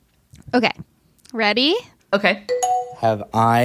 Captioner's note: ding dong sound